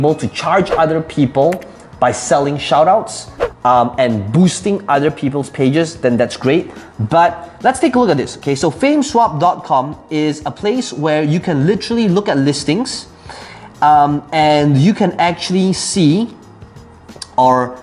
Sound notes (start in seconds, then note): 0.9 air whooshing, key clicking; 3.2 air whooshing